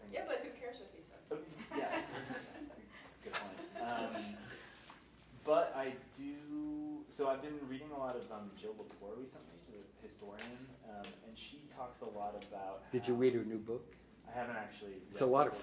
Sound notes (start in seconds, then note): 1.5 laughing